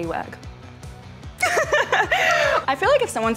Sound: laughs

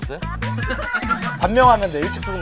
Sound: coughing

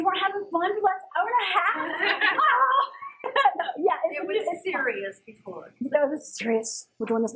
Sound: laugh

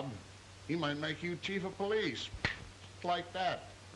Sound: snaps fingers

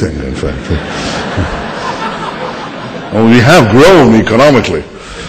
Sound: laughter

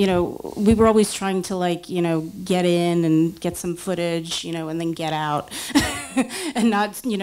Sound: laughs

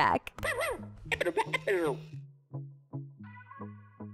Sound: dog barks and plays music; upbeat music

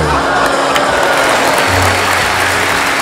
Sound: audience gasps and bursts into applause

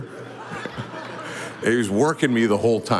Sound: audience laughing

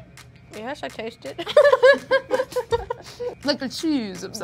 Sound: laughing

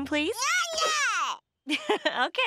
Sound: yelling; giggling

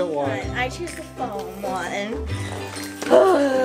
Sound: sighs

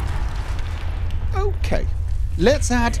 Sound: roars and crashing rock

